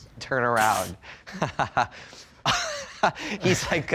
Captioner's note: laughing